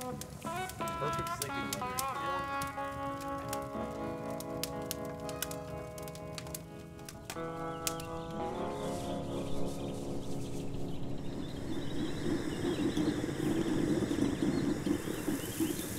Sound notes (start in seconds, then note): 0.9 fire crackling warmly; 7.5 birds chirping happily; 12.4 kettle rattling